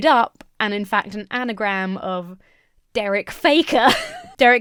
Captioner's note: laughs